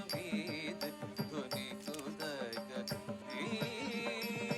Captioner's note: camera clicking